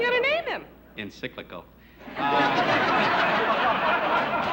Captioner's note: laughter